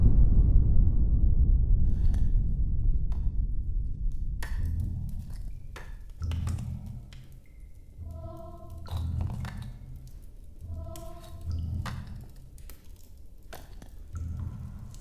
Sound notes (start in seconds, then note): 5.8 bricks moving; 8.2 eerie music; 12.2 bricks moving